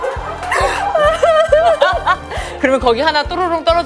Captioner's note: sobbing